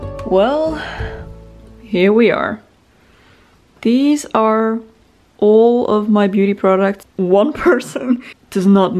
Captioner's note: sigh